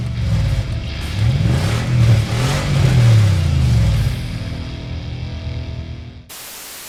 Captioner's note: roaring engine